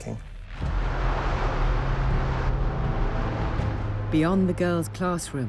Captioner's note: dramatic music; plane engine roaring